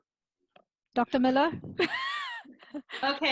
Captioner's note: laughs